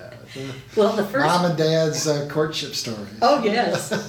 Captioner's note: laughs